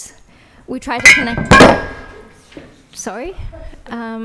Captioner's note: object clangs